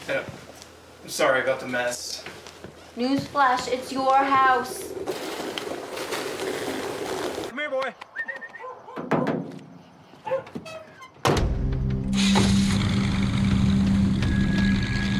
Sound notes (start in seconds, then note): 6.0 boiling over; 8.0 whistling; 9.7 door slamming; 13.7 ominous music